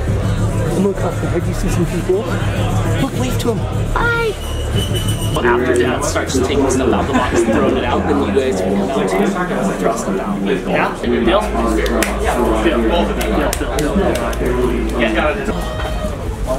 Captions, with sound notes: And look up there, have you seen some people? Look, wave to them, hi! Well, after dad starts taking stuff out of the box, and throwing it out, then you guys can come out too, and after I'll step out, yeah, deal? (hands clapping) Yeah, deal, deal. Yeah.